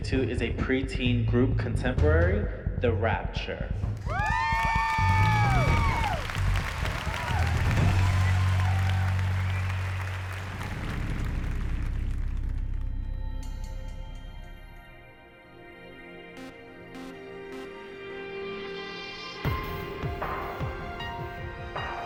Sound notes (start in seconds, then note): 4.2 cheering; 6.2 applause